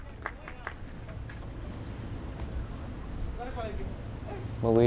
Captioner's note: fans clapping rhythmically